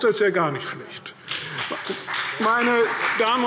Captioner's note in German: Beifall CDU und BÜNDNIS 90/DIE GRÜNEN